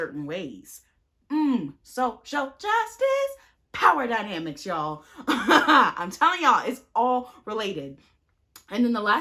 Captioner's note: chuckles